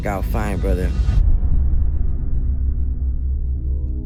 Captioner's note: deep boom